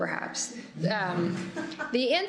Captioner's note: laughter